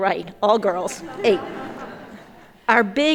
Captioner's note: everyone laughing